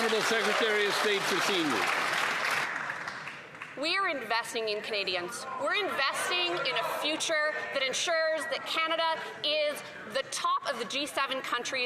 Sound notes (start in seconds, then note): 4.7 some Applause